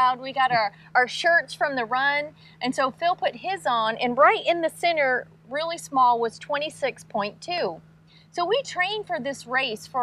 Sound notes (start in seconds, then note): none